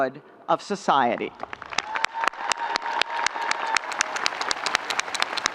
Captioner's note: audience cheering